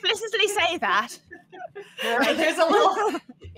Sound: all laughing

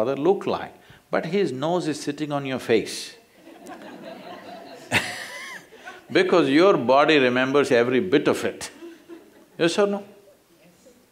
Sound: laughter

